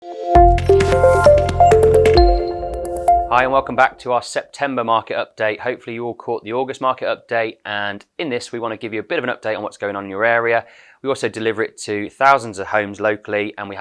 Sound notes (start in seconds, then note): 0.3 gentle electronic tones